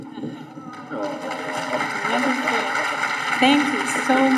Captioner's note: audience applauding